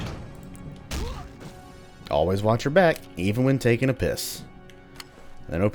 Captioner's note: thwack